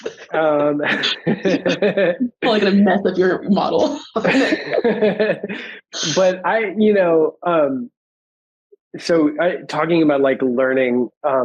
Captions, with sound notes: (panelists laughing) Like a map of your model. (panelists laughing) But I... So talking about like learning,